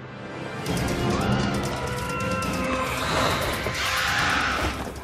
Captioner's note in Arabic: لمياء يصرخ